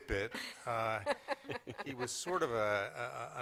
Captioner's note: laughter